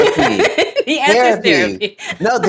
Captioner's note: laughs